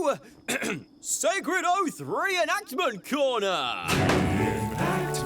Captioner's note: clears throat